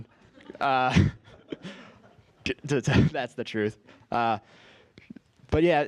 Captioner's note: laugh